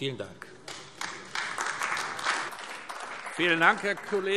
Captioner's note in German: Beifall AfD